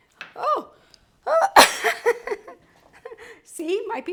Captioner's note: coughs and laughs